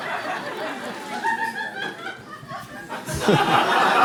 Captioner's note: hyena-like laugh from audience